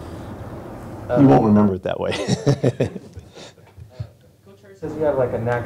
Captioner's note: chuckles